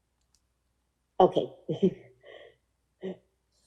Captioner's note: laughing